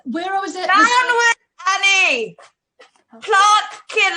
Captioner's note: shouts